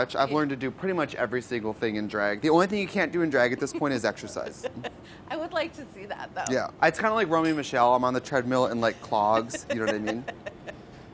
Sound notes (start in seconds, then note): 3.4 laughs